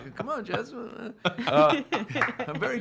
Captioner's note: laughing